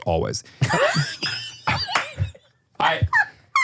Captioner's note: laugh